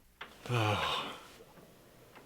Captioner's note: deep sigh